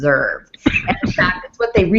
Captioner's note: coughs